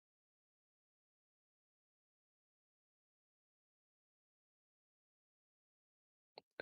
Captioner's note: silence